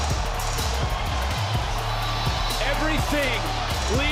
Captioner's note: crowd cheering